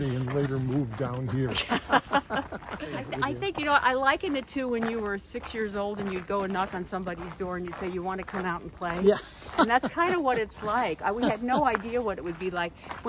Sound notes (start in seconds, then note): 1.1 all laughing